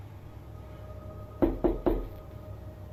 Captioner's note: knocks